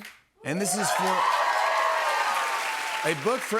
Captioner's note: cheers and applause